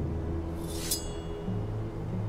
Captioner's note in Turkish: Kılıç sesi